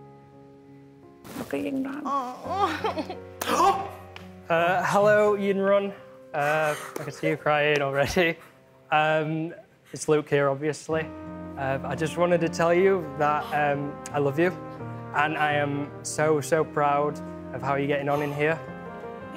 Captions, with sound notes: Look at Yinrun. [Gasps] Hello Yinrun. I can see you’re crying already. It’s Luke here, obviously, but I just wanted to tell you that I love you. And I am so, so proud of how you’re getting on in here.